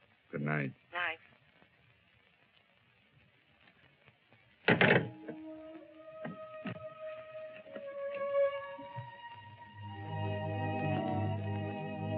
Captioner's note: on phone